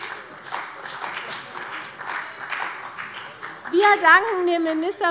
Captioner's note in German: Heiterkeit und Beifall bei der CDU und dem BÜNDNIS 90/DIE GRÜNEN